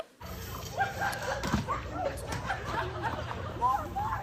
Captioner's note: indistinct shouting, laughter